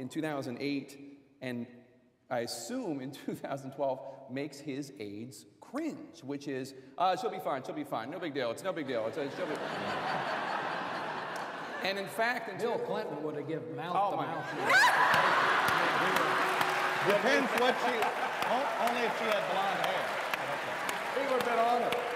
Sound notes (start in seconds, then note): 17.0 laughter